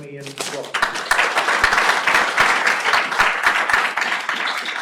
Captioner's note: applause